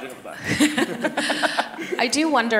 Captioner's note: laughing